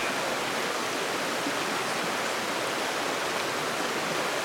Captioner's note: water streaming